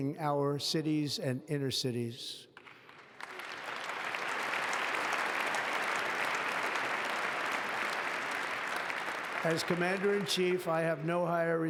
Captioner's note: applause